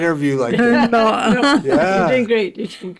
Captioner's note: chuckling